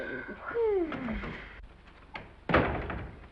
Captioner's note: Danny sighs; door slams